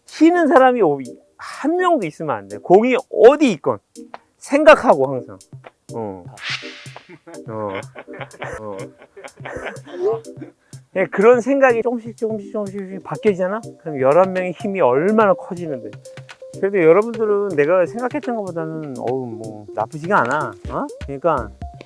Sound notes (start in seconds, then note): 10.0 pat